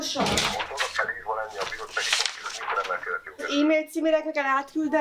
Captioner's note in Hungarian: férfi a telefonban